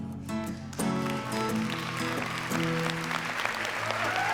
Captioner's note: applause; upbeat music